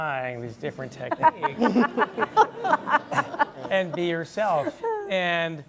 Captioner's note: laugh